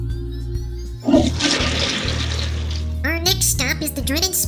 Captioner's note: toilet flushes